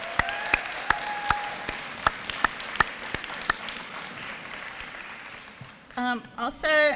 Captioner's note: applause and cheering